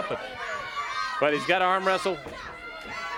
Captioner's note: crowd chatter